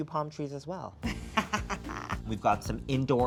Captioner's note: upbeat music; laughs